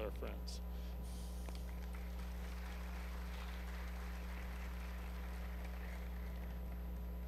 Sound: applause

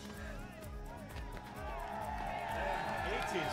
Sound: cheering

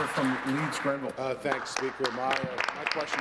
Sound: applause

